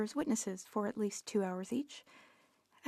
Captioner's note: speaking French